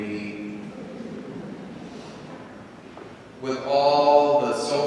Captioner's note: congregation laughing